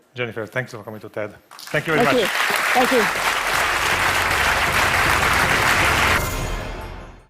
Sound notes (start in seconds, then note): 3.3 Alkış